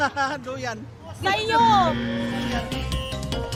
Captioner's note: theme music playing; buzzer sound